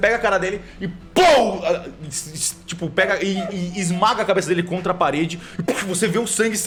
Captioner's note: pow